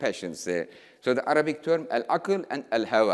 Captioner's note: speaking in foreign language